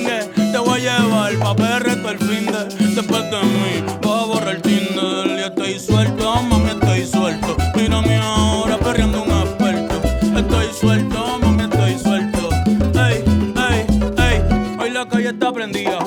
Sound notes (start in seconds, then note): none